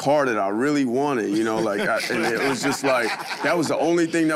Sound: all laugh

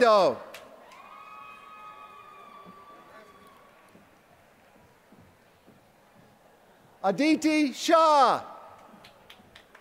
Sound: applause

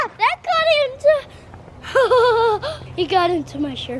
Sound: child yells; laughs

